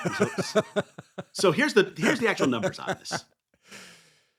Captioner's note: laughing